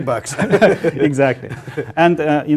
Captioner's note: laugh